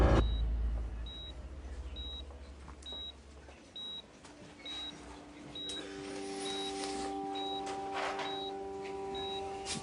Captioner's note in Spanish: Bip en el monitor